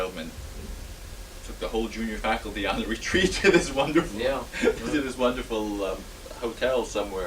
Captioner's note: laughs